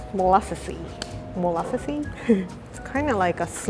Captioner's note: giggle